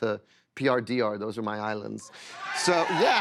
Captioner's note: cheers and applause